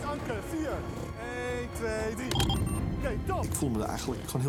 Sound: beep

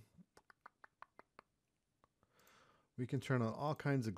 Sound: clicks tongue

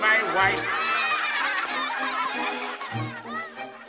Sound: kids laugh

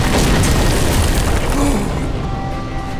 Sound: gasping

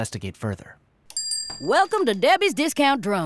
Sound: shop entry bell rings

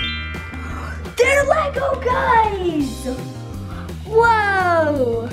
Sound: twinkling; gasps

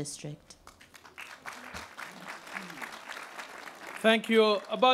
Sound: applause

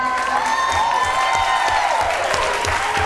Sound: applause

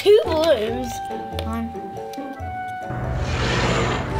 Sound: game piece tapping; loud dinosaur roaring

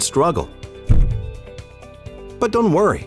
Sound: thud

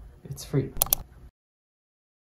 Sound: mouse Click Sound

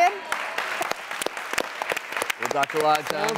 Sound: applauding

